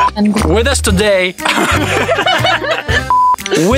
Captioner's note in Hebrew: צחוק